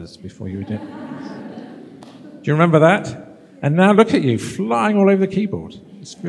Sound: laughter

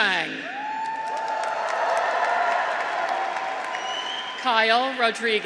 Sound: graduates cheer

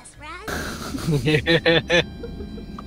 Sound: snickering

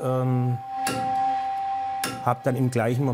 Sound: whistling, breathy tones

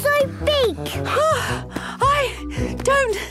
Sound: panting

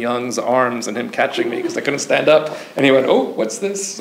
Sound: audience member chuckles

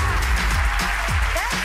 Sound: audience applause; upbeat music

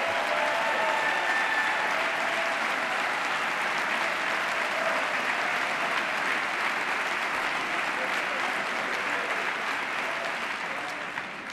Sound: applause

